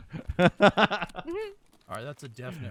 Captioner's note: laughing